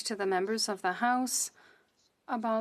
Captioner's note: speaking French